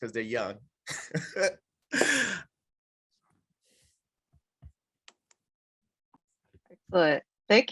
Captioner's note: laughs